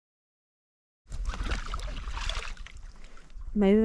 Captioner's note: oars splashing